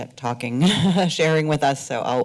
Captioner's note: laughter